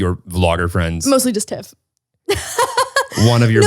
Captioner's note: laughs